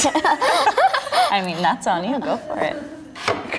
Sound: laughing

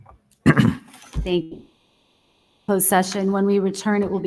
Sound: audio distorts

